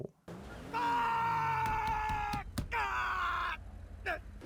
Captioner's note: Michael screaming